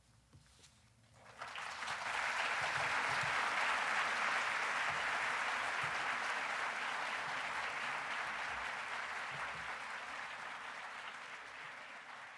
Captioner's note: applause